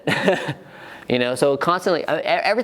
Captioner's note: chuckles